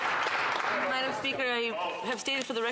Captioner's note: some Applause